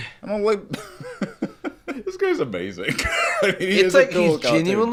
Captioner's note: laughing